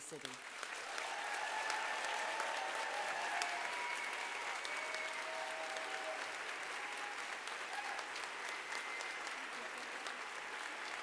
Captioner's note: applause